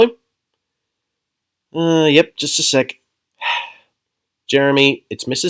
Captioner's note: sigh